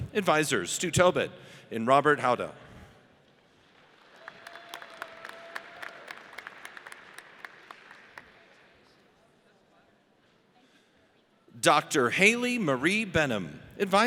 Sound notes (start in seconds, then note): 4.1 audience cheers